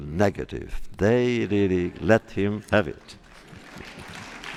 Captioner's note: laughter; applause